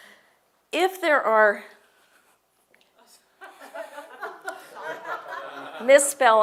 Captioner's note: laugh